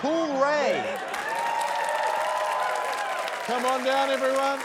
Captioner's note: cheering, applause